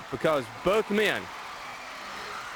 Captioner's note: crowd cheering